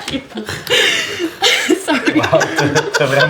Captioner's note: laughter